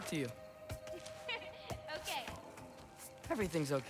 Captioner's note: laugh